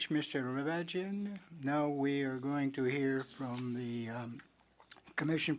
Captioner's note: speaking French